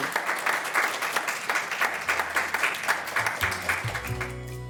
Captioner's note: audience applauds